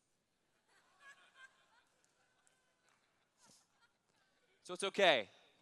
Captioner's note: laughter